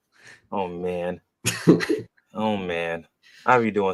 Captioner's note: laughs